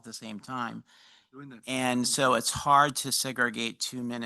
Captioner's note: speaking faintly